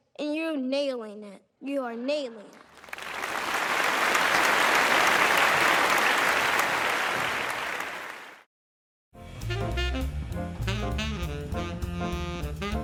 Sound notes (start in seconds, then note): 2.6 croud applausing; 9.2 uplifting swing music